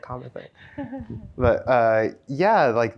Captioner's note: chuckles